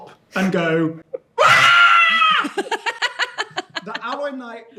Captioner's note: screams